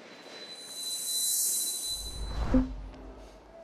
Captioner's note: whooshes